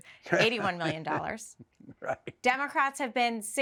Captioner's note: chuckling